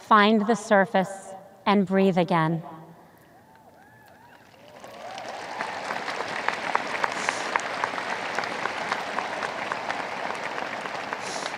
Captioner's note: audience applause